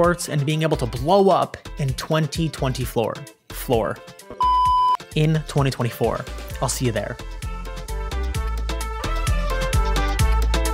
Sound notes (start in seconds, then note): 4.4 beep; 7.2 upbeat music